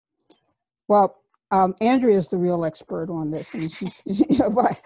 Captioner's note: chuckles